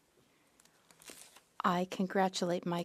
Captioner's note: speaking French